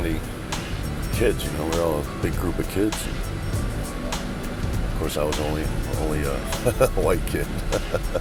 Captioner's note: laugh